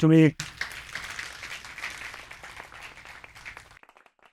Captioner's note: people applaud